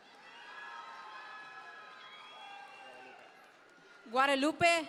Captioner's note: audience members cheer